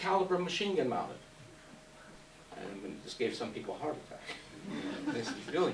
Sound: laughs

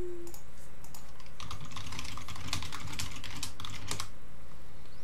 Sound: keyboard clicking

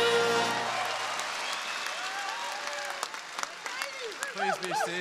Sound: audience applauding

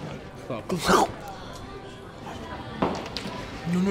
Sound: gagging

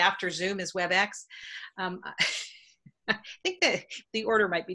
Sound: laughing

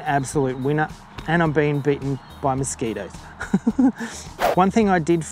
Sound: laughs

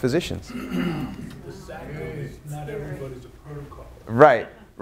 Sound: audience members respond

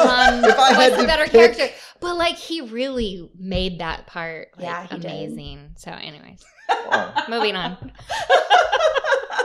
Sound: laughter; laughter

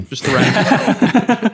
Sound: everyone laughs

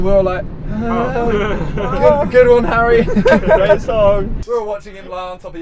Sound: awkward chuckle

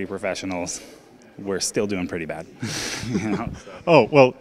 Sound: laughing

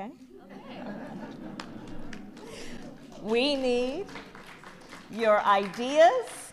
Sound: laughter

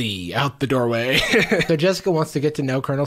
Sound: laughs

